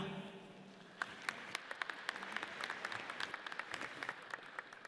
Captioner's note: audience applauds